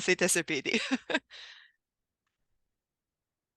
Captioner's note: rire